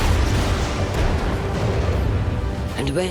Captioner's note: thunder crashing